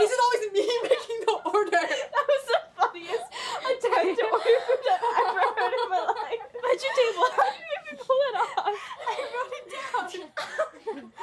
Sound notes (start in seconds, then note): 3.9 overlapping laughter